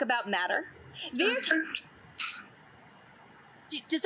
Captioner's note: male voice interrupts